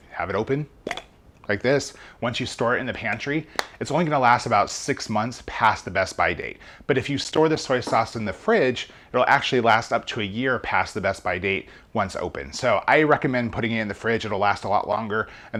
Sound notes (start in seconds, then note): 0.8 bottle cap popping